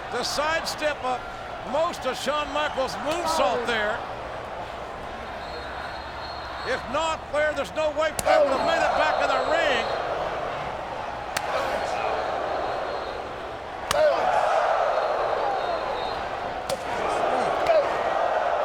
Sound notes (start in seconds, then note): 10.9 crowd clamoring; 11.7 strikes smacking